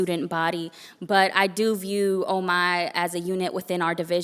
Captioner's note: foreign language spoken; foreign language spoken